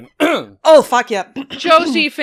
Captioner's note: clears throat